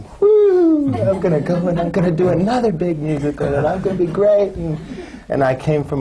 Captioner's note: laughter